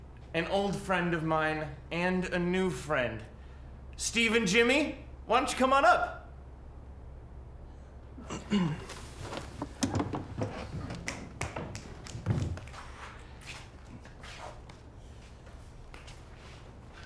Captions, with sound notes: An old friend of mine and a new friend Steve and Jimmy! Why don't you come on up! (snaps his fingers)